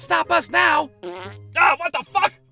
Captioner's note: farts